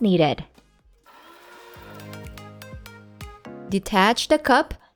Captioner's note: coffee grinding